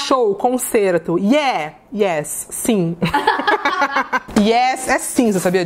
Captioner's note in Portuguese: risos